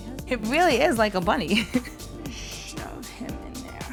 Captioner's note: laughs